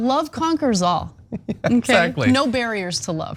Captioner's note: laugh